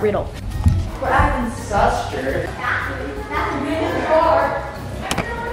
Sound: players chattering

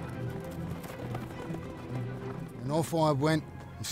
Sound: hooves clop

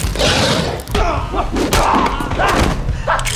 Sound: growl; grunts; gun cocks

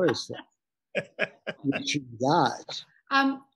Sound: laughing

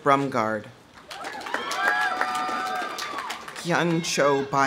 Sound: audience applauding; audience cheering

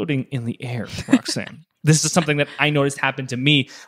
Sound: laughs

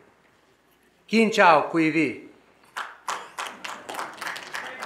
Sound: speaking foreign language; audience applauding

